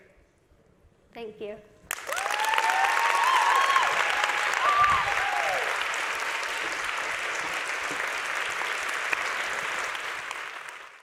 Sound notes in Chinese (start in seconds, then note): 1.9 全場掌聲